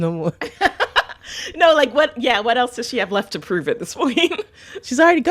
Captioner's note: laughter